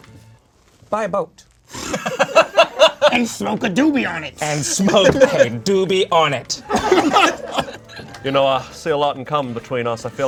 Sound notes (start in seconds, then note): 1.7 laughs; 6.6 group laughs